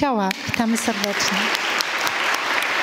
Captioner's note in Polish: oklaski